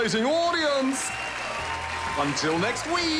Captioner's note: cheering, applause